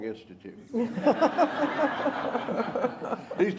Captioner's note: laughter